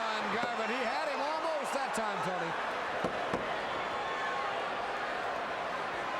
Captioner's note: crowd chattering